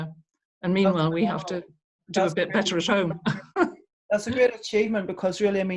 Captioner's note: chuckles